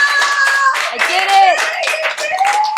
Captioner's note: everyone clapping and cheering